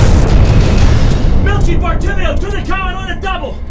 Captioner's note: explosion